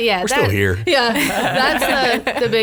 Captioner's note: laughs